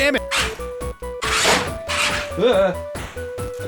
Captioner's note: motor noises